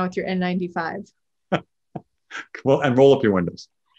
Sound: laughs

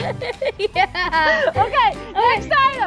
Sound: laughing

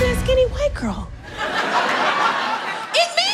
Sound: audience laughing

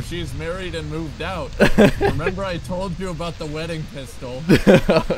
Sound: laughing; laughter

